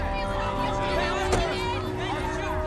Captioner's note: reporters speaking excitedly